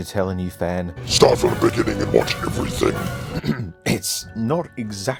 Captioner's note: Demonic voice